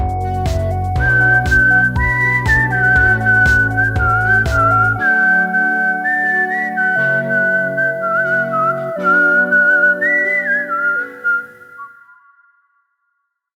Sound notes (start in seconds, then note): 0.2 whistling